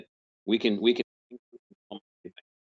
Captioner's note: murmurs